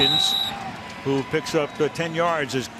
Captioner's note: whistle blows